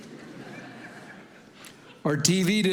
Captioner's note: congregation laughing